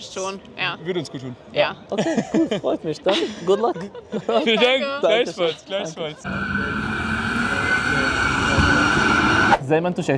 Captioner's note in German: gelächter